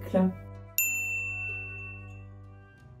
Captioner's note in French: ding